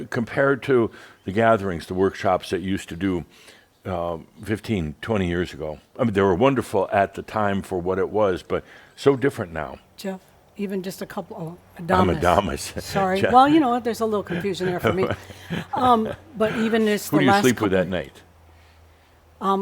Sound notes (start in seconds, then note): 12.0 Adamus chuckles; 14.2 Adamus continues chuckling